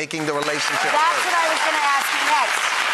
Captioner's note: applause